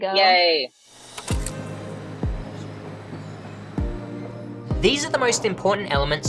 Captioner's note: shutter clicking; upbeat music